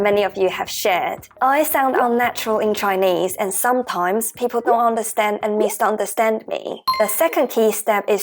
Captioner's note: Mandarin